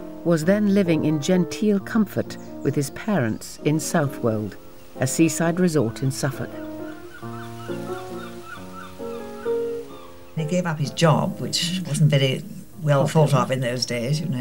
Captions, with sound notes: was then living in genteel comfort, with his parents in Southwold, a seaside resort in Suffolk. (seagulls) He gave up his job; which wasn't very well thought of in those days, you know.